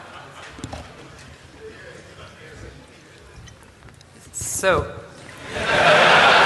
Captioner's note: laughter